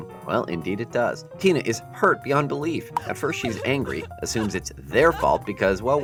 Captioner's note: Tina crying in bed